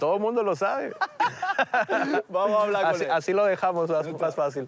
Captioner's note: laughs